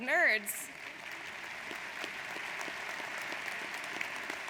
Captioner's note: audience applauds